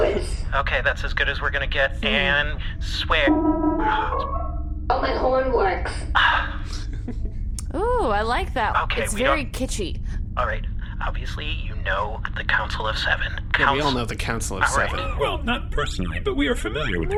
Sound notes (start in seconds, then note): 6.2 sighs